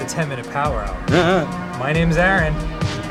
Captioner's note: makes some affirming noise